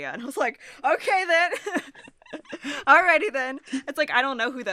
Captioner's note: chuckles